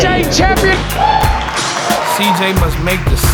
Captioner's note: spectators applauding